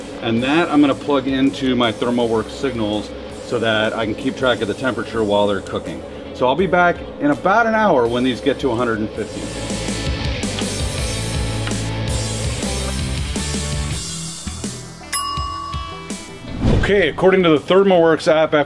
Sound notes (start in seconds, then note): 8.8 upbeat music; 15.1 timer chiming